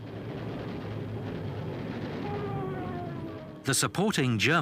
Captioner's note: guns blasting